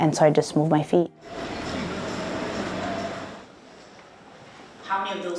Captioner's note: car Driving